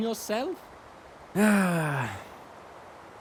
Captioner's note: Milky_Dad sighs